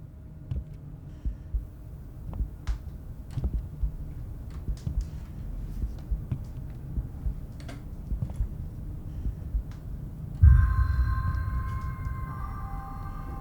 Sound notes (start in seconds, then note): 0.6 muffled heartbeat; 10.4 ominous sound